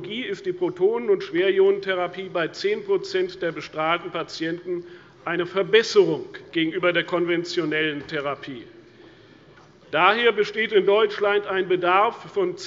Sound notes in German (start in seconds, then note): none